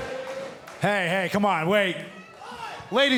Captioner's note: fans chanting